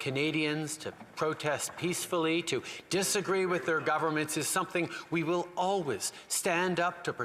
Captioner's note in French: voix de l'interprète